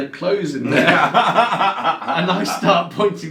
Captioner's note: both laughing loudly